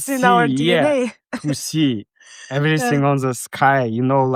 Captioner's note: chuckling